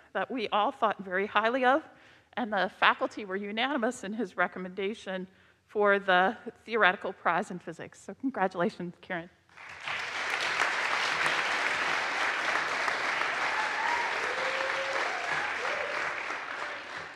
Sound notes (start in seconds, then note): 9.5 audience applauds; 13.4 audience cheers